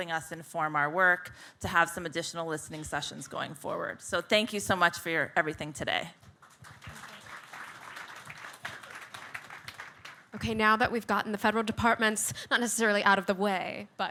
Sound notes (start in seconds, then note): 6.3 audience clapping